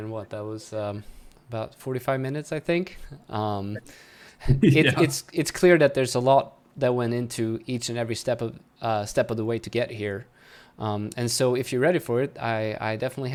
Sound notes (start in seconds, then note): 4.6 laughs